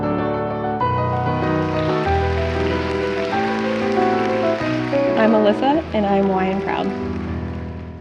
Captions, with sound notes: (audience applauds) I'm Alyssa and I'm Y and proud.